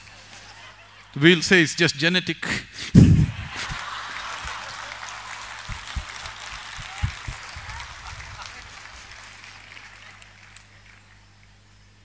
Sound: laughter; laughter/Applause

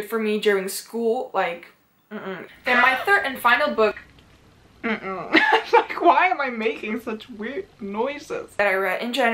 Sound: mimics uhuh

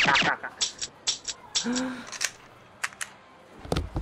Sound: pistol hammer clicking; gun reloading

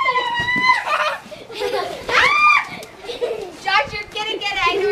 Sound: children laughing

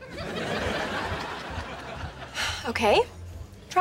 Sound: sighing

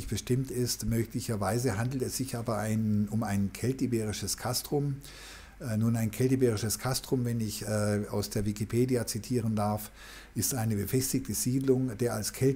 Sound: german

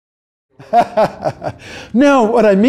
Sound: laughing

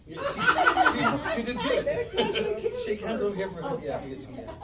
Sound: chatter

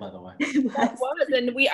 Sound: laughing

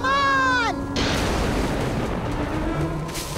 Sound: thundering

